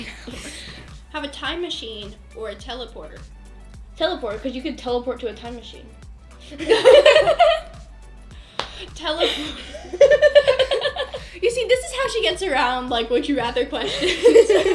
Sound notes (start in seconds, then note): 6.5 laughter